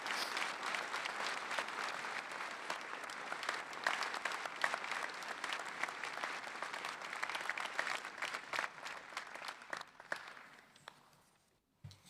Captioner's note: applause